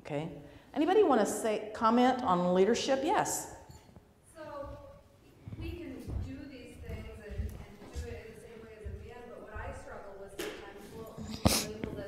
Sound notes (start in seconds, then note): 3.9 voiceover